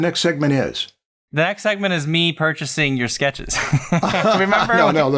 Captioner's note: laughter